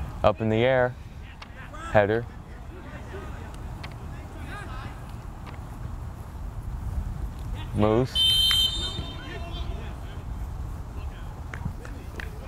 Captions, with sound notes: Up in the air, header. Muse. (whistle blows)